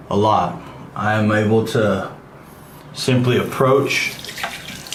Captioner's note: water splashing